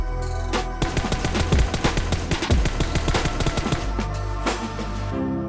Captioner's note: shots